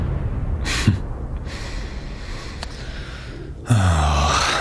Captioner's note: chuckling